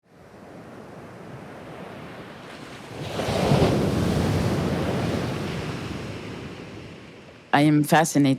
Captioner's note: waves surging